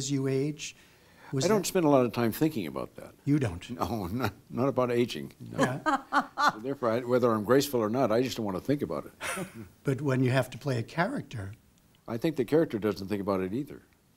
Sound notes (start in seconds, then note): 5.5 laughter; 9.3 laughter